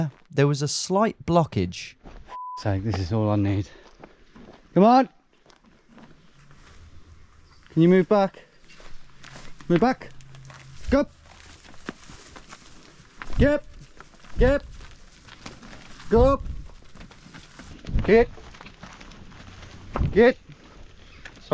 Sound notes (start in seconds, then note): 2.3 beep